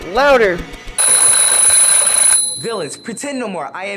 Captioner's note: alarm sound